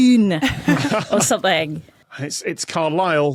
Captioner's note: group chuckling